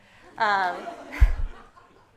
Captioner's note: audience laughs